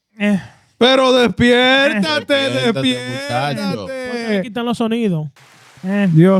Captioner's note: speaking In Foreign Language